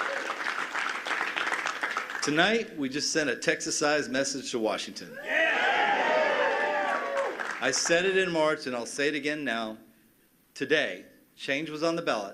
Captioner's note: cheers and applause